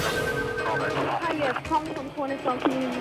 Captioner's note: phone ringing